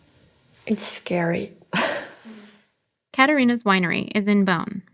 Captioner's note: laughs